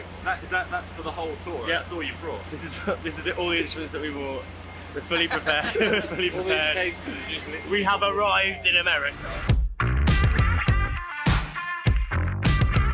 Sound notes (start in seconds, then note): 5.0 laughs; 9.0 upbeat music